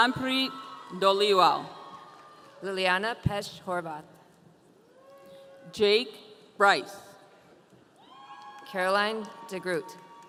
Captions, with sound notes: - Curanpri Dolewel. - Liliana Petchorva. - Jake Bryce. (audience cheering) - Caroline Dergrut.